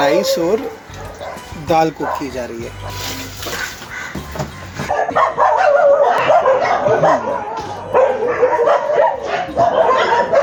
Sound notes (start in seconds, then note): 4.8 dog barking